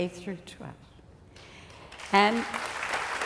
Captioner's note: applause